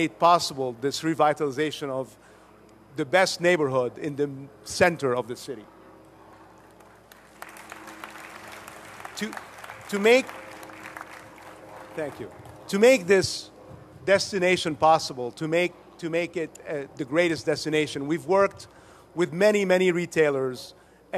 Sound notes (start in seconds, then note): 6.7 applause